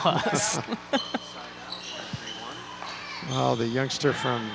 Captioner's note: laughing